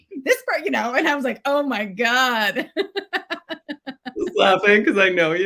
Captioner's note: laughs